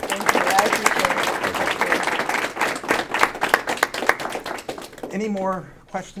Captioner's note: audience applauding